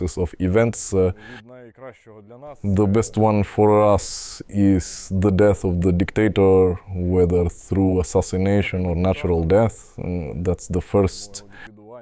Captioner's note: Russian